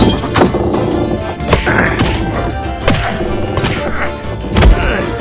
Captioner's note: repeated grunts and thwacks